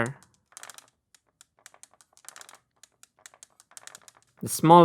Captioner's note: marble rolling